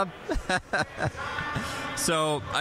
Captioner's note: laughing